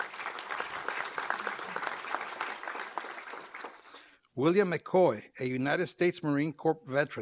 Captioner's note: applause